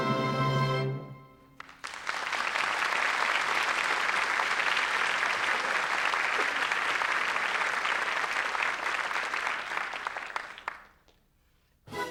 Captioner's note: applause